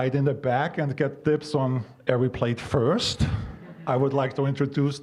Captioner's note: audience chuckling